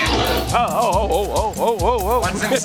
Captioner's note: dinosaur snarls